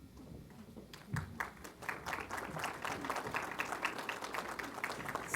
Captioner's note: applause